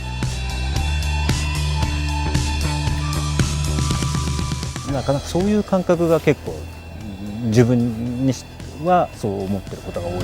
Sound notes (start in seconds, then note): 0.1 upbeat music; 5.1 speaking in foreign language